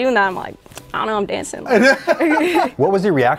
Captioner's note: both laugh